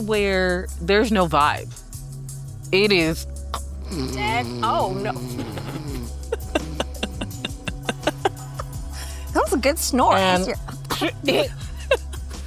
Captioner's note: snores